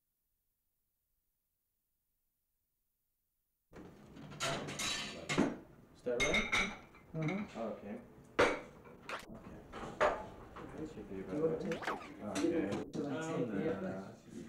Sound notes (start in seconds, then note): 0.0 silence; 2.4 general kitchen noise. chatting